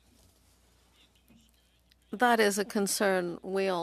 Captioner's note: speaking French